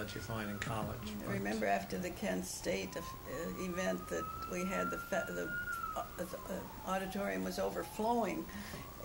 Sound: sirens

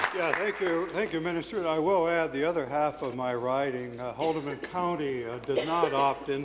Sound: applause

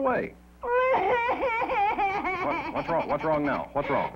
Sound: crying

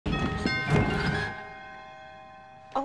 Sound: doorbell rings

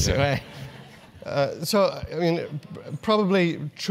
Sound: laugh

